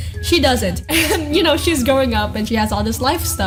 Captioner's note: laughs